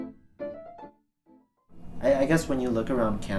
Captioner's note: silence